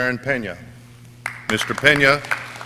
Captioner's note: audience cheering